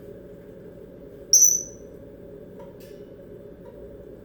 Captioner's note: smoke alarm chirp noise